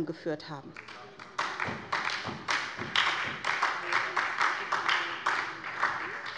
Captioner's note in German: Beifall bei der SPD